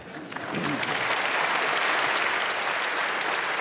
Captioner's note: applause